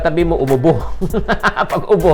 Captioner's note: laughs